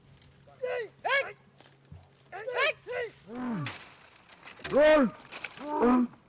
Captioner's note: lion hunting / Goats bleating